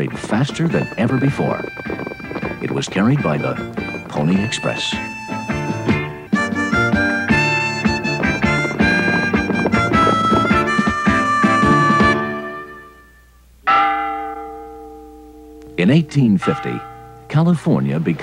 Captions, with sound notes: (old western music) (church bells ringing) In 1850, California becomes the 31st state. But in 1850, 2,000 miles separate California